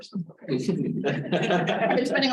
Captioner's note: laughter